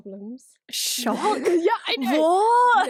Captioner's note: laughs